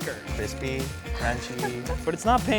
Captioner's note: woman giggling